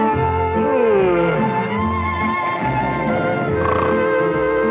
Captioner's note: snoring